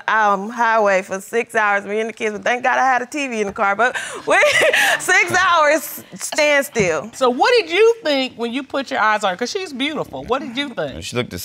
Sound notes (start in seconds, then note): 4.2 laughs